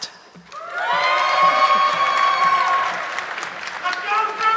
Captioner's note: audience clapping